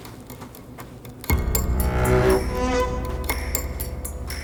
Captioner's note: footsteps thudding